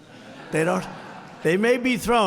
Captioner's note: laughter